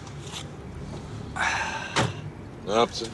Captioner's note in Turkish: Nefes sesi